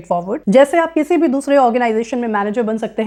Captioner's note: speaking hindi